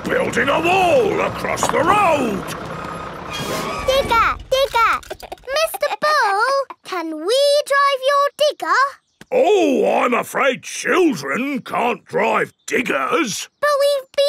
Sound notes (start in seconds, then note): 5.0 chuckles